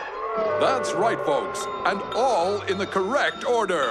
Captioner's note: audience boos